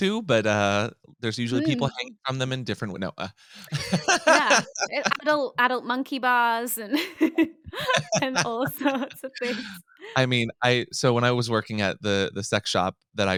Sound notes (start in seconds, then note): 3.6 laughs